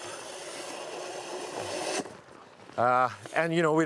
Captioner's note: snow shovel grinding